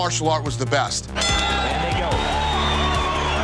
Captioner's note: bell dings